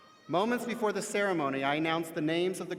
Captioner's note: none